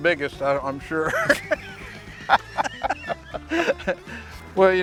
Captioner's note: laughter